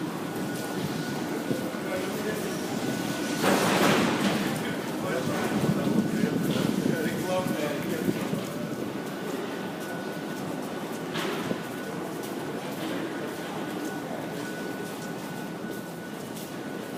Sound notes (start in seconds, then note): 2.2 closing doors; 2.2 passengers are talking